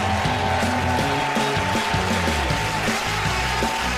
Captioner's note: cheers and applause